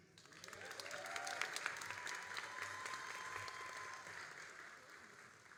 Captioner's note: all applauding and cheering